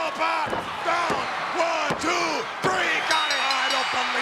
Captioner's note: hand pounding